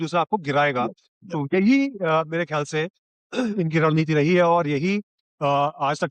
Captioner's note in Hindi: गला साफ़ करने की आवाज़